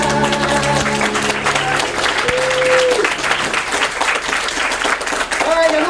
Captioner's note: applause